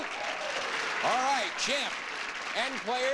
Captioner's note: audience applauding